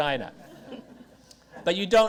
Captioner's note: audience chuckles